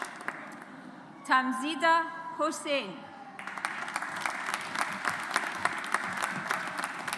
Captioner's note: audience applauds